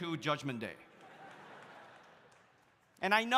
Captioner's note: audience laughs